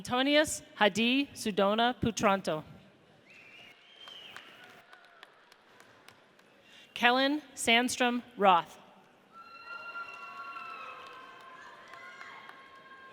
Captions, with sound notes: Antonius Hadi Sudono Putranto. (audience applauds) Kellan Sandstrom Roth. (audience cheers)